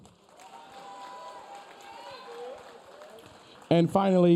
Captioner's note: audience cheering